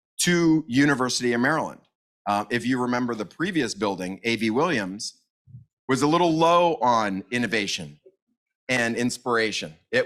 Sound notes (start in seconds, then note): none